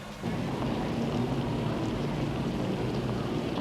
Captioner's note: traffic rumbling